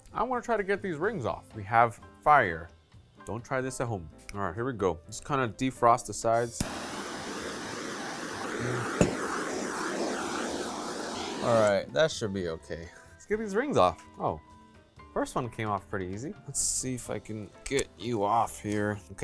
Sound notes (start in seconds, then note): 6.4 torch blowing